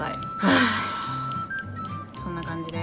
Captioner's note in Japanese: 大きなため息